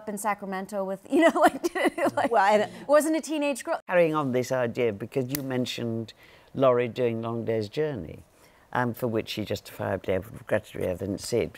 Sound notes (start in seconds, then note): 1.6 laughs